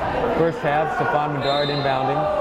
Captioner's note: yelling